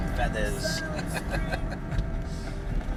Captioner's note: chuckling